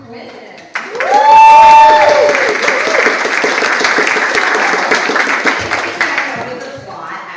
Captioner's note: audience applauds